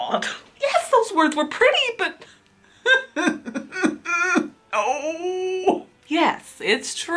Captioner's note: whimpers